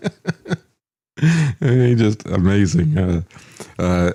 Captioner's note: laughs